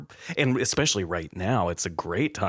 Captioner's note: laughter